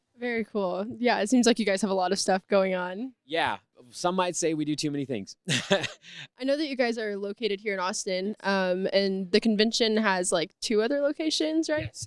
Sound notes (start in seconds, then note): 5.5 laughs